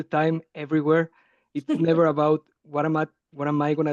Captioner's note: laughing